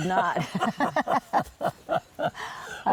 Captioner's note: laughter